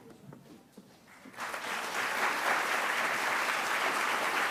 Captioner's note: audience clapping